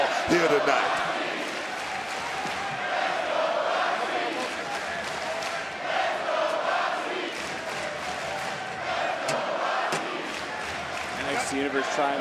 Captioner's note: crowd chants "let's go, roxy"